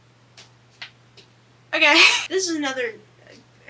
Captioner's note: laughs